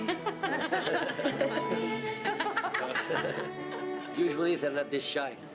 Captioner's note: family laughs